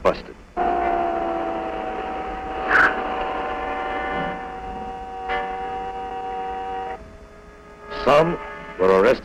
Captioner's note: police sirens and car horns sound